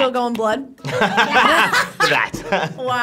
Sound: laughs

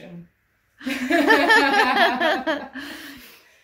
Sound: laughter

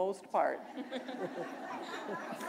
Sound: laughter

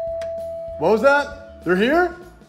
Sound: doorbell rings

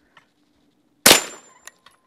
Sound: bang

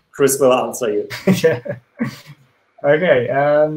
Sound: laughs

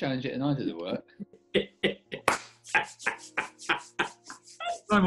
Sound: mischievous chuckling

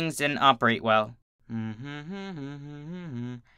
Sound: humming

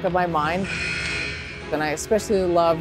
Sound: game Buzzer Sounds

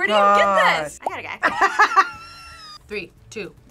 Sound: both laugh

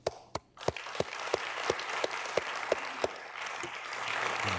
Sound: audience applauding

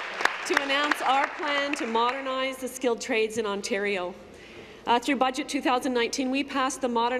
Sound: applause

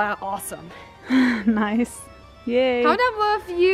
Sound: chuckles

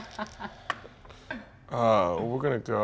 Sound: laughing; dice tap table

